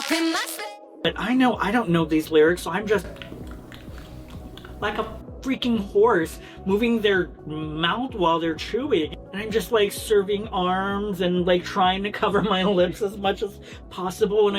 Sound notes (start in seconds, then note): 2.8 smack, smack, smack, smack